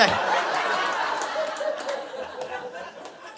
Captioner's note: audience laughing